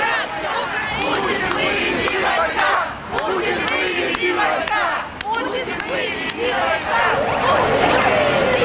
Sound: chanting

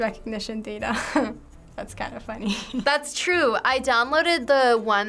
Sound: chuckles

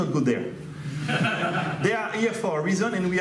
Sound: audience laughs

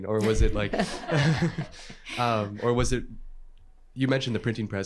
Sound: laughter

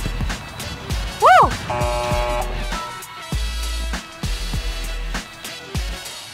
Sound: buzz

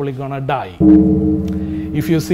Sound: bell tolls ominously

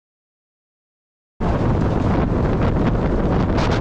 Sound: wind

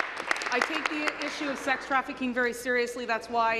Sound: applause

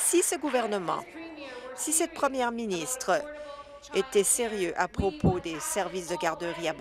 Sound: applause

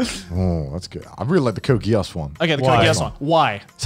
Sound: murmurs

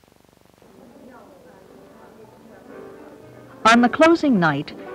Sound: women outdoors talking

